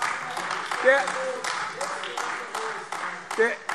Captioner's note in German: Beifall AfD - Zurufe